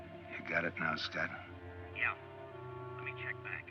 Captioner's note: on phone